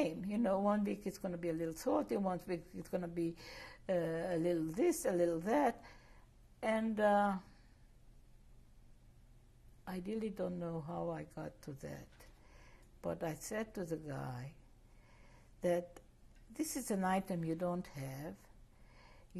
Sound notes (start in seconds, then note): 7.0 pauses for 3 seconds